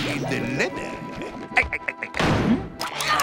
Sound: laughs; grunting

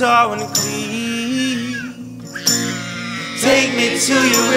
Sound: baby crying

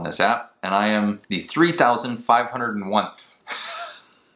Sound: laughing

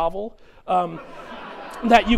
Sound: chuckling

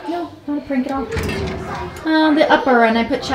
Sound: drawer slides open

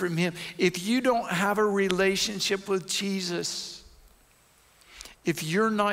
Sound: none

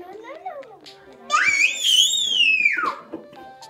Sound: screaming

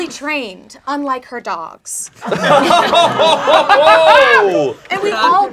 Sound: laughing

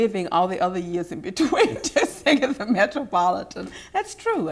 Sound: laughing

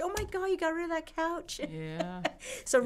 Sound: laughs

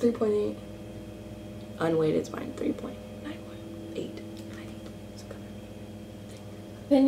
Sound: whispers

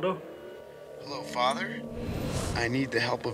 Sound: on phone

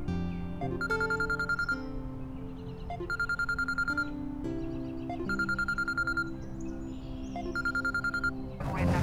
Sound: phone ringing

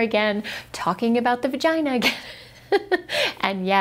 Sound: laughs

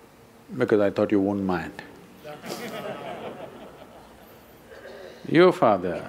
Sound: laughter

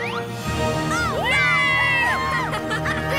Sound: triumphant music; crowd cheering

